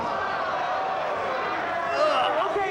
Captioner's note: crowd gasps